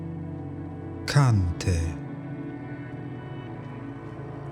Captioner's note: german